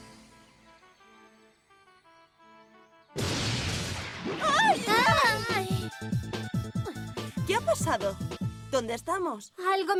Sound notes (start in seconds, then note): 3.2 blast